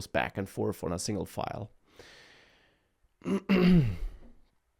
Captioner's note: clears throat